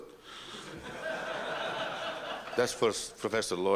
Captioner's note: laughter